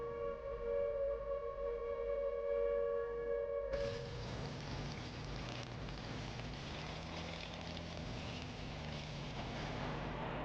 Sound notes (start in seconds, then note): none